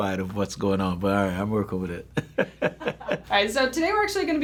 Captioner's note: chuckles